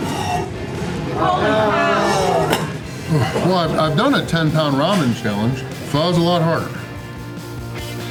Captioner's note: shocked crowd reactions